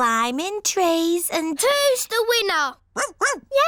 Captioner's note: barks